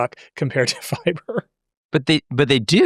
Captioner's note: chuckles